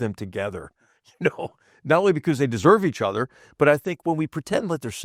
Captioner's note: laugh